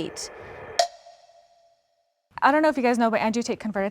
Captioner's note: clock ticks